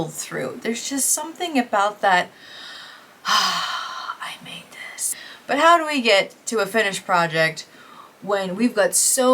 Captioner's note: ahhhhh